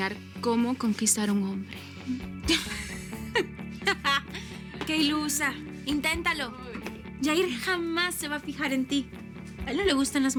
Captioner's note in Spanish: Risas